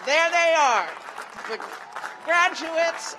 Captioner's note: cheers and applause